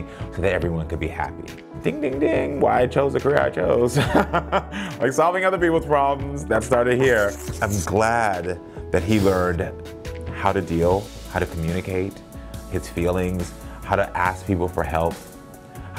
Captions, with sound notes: so that everyone could be happy. Ding, ding, ding, why I chose a career I chose. (Karamo laughing) Like solving other people's problems, that started here. I'm glad that he learned how to deal, how to communicate his feelings, how to ask people for help,